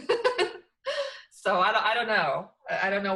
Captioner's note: laughs